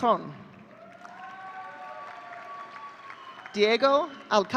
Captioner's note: audience cheering